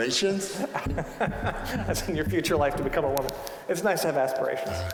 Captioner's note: laughing